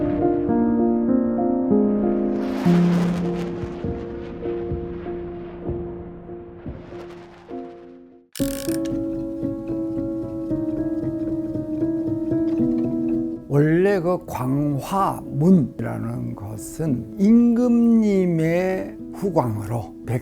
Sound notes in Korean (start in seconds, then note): 0.0 애잔한 음악; 8.4 다이얼 소리